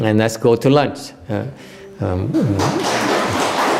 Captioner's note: applause